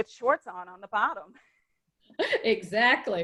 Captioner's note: laughing